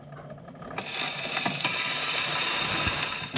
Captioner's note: loud scratching